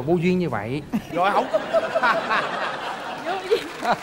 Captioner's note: laugh